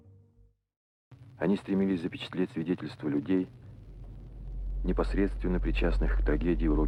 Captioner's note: reporter speaks in Russian; tense brooding music